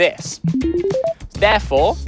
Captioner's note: beeping sounds